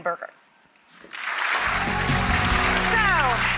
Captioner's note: applauding